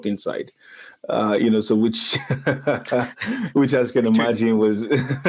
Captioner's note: laughs